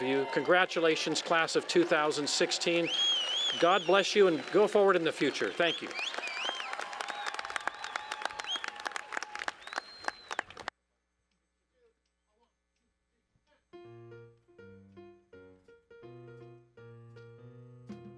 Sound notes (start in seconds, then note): 6.9 applause